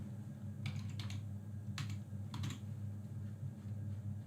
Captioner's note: keyboard clicks